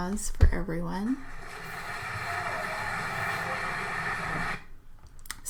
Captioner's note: crowd cheering